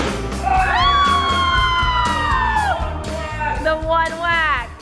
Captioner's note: family cheering